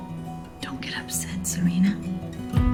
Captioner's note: voiceover